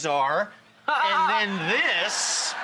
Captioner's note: laughs